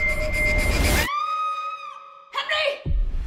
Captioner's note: screams